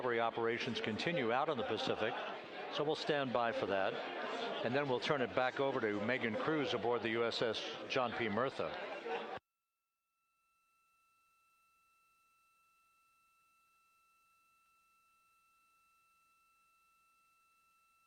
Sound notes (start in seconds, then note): 6.5 laughter